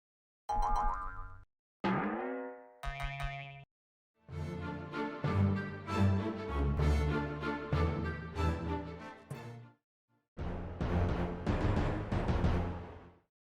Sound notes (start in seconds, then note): 0.0 sound effect of bouncing objects; 10.5 tension sound effect